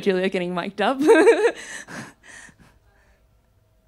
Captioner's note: laughs